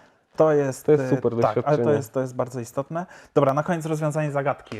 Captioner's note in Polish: śmiech